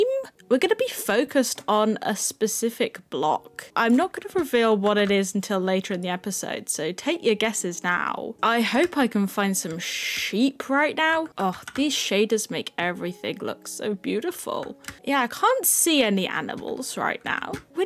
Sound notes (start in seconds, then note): none